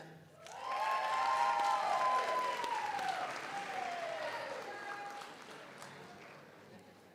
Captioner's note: audience applauds; audience cheers